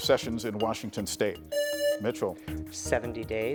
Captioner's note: presses buzzer